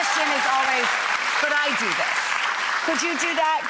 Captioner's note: crowd clapping